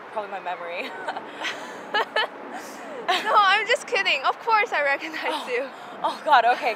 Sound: laughs

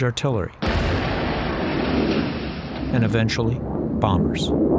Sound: explosion

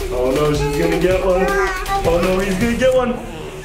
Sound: lava monster cooing

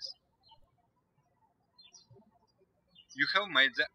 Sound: birds chirping

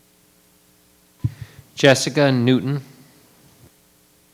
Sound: microphone beeping

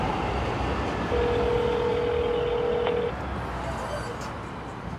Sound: phone ringing

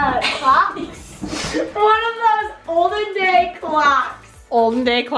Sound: laughs

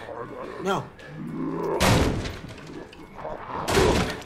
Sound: growling, banging on door

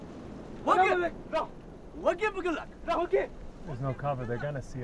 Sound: speaking foreign language

